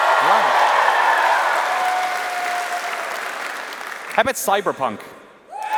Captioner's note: cheers and applause